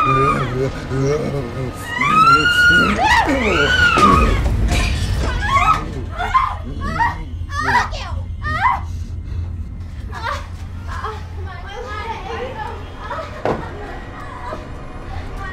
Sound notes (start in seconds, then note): 0.0 Killer grunting; 0.0 Morgan screaming; 1.6 Morgan screaming; 13.5 Morgan groaning